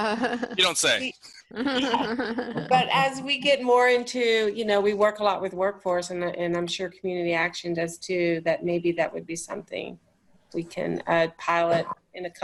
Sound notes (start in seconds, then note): 0.0 laughs; 1.6 laughter